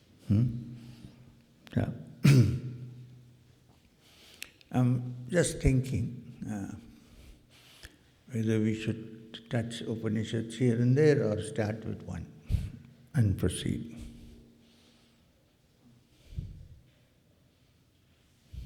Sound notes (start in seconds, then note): 2.2 clears throat